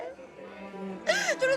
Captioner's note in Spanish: Sollozos